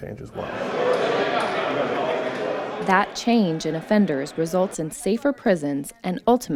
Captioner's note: offender movement sounds